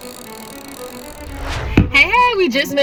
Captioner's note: air swooshing